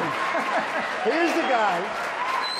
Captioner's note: laughter; applause